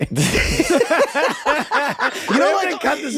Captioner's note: guys laughing